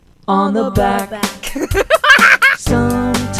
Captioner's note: Emma laughs joyously